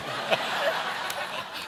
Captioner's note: laughter